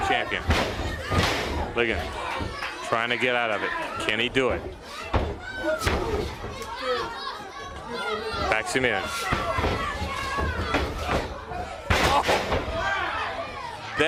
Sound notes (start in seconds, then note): 6.1 crowd chatter